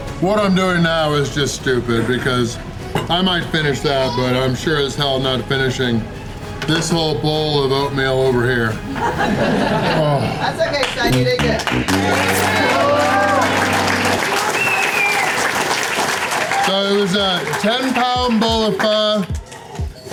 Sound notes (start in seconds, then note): 8.6 crowd laughter; 15.1 crowd applause